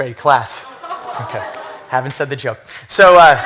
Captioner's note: laughter